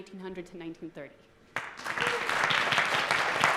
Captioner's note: applause